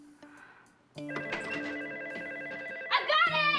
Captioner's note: phone ringing